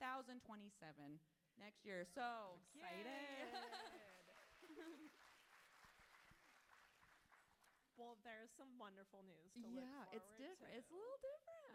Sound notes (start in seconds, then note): 3.5 audience clapping; 4.7 author laughs